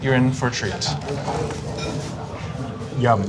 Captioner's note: slurps